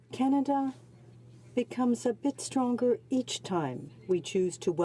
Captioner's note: speaking French